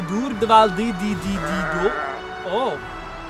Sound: sheep bleating

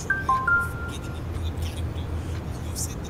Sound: notification rings

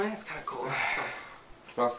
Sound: sigh

